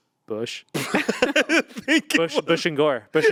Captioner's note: group laughing